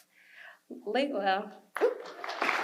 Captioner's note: audience applause